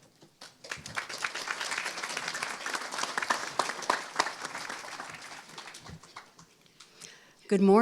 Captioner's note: applause